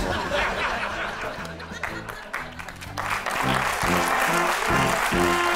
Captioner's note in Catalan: aplaudiments